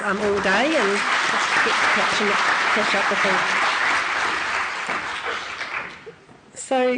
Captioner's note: applause